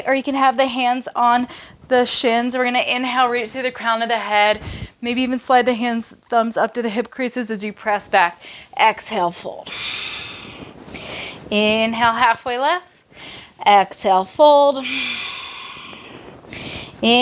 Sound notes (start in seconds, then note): 9.6 exhales; 13.0 inhales; 14.8 exhales